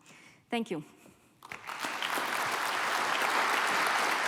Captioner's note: applause